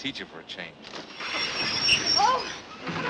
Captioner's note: train brakes